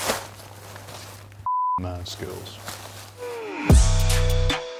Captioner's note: beep; upbeat music